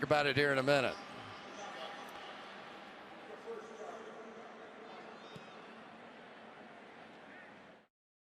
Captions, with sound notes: We'll talk about it here in a minute. [pa announcement]